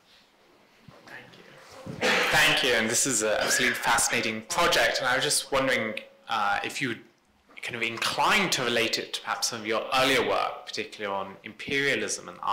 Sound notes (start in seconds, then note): 1.9 coughs